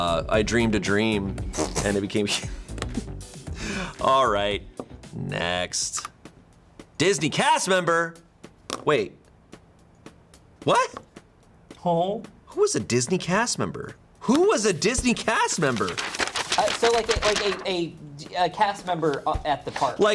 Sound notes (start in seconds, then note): 2.3 laughs; 5.7 button clicks